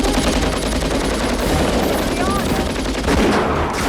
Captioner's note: Victoria Shouts